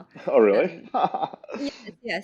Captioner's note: laughs